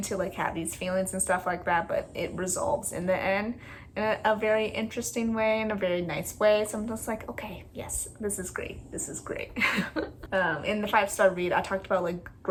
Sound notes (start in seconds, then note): 9.5 laugh